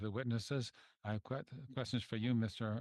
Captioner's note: speaking French